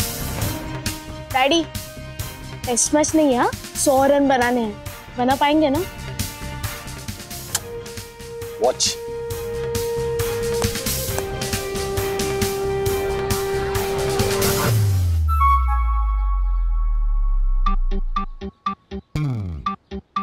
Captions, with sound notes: Daddy... this is not a test match, okay? We have to score 100 runs. We'll be able to make, right? [kissing sound] Watch. [comical music] [comical music]